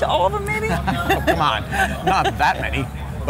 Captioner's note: laughs